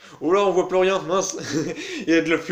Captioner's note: laughs